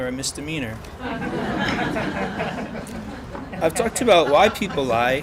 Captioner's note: laughter